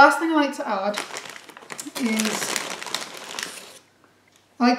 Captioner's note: bag rustles